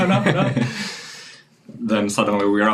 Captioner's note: laughing